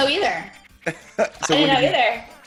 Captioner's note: laugh